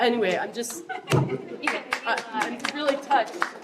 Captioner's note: applause